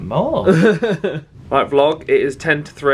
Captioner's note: laughing